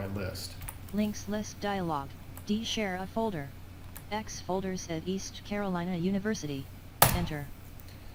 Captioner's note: sound of screenreader